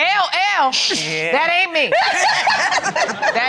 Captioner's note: all laugh